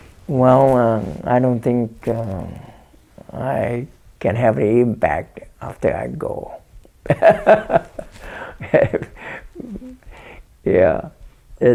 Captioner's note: laughs